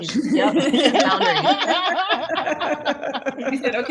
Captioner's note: laughter